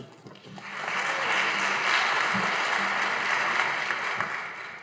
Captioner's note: audience applauding